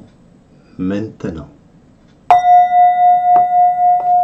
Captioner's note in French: son de clochette